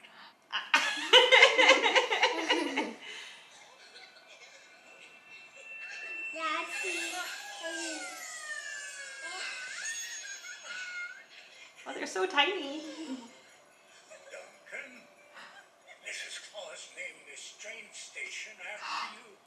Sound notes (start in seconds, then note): 0.6 laughs; 9.0 elves giggling